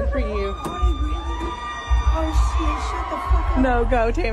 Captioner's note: fans screaming